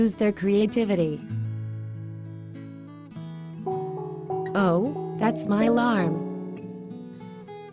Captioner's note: phone alarm goes off